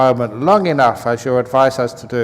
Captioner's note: none